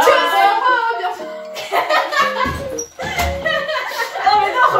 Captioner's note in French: Rire